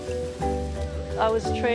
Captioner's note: tapping